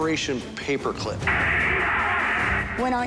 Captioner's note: crowd cheers